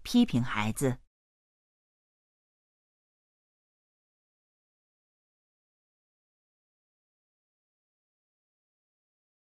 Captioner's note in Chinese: 空白_音频; 空白_音频